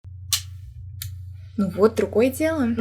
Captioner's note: click